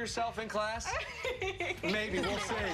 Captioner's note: laughter